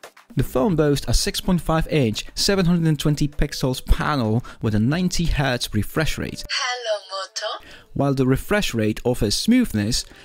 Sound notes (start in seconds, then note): 6.4 Hello Moto start up sound